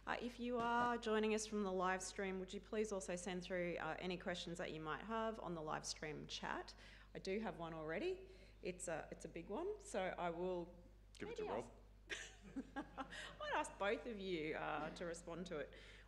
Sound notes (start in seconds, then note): 12.1 laughing; 12.5 audience laughing